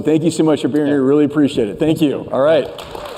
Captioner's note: cheers and applause